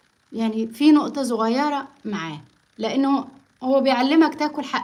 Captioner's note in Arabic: none